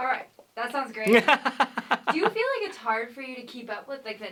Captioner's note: laughter